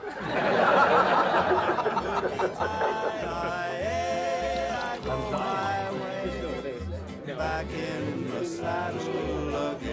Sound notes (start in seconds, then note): 1.8 crowd laughs; 3.8 crowd laughs